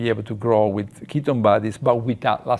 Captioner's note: none